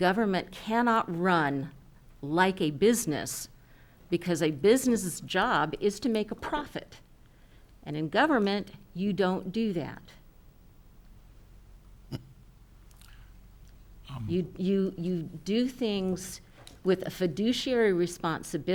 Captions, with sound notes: But government cannot run like a business because I business's job is to make a profit. And in government, you don't do that. (chuckles) - You do things with a fiduciary responsibility.